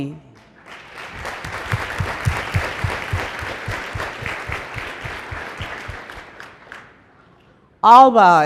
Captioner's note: applause